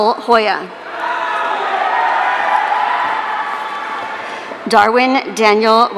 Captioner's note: audience cheering